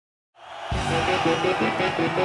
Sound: crowd cheering; driving rock music

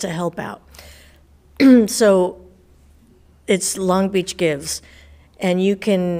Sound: coughs

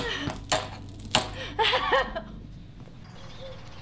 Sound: sobbing

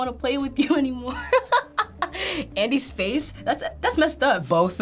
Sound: laughs

